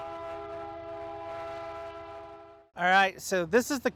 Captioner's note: loud train horn